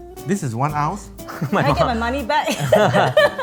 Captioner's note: laughs